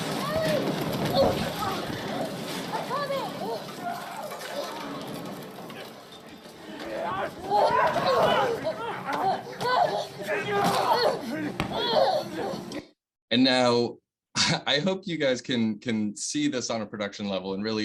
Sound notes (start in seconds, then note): 4.1 groaning